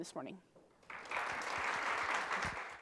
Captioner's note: applause